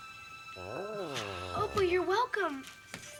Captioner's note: Tasha coos